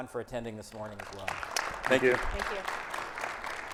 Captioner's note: audience clapping